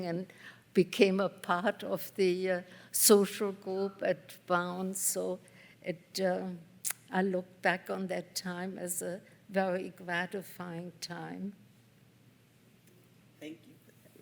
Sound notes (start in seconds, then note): none